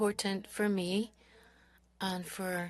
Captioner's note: speaking French